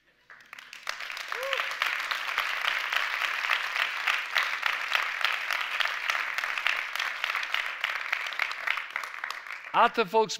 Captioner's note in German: Applaus